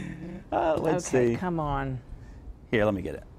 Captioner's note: laughing